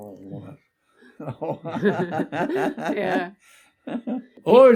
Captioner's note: laughs